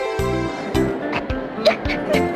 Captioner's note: Asuka laughs